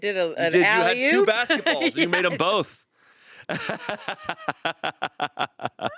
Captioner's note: laughs